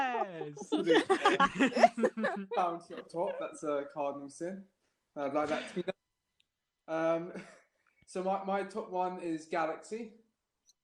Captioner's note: laughter